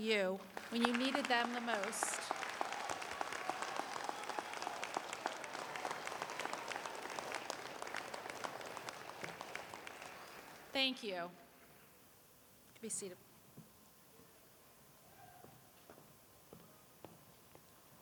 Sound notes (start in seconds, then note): 7.8 applause